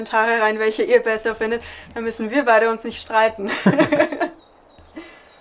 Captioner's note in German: Lachen